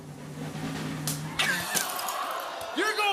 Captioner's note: drumroll; audience ohs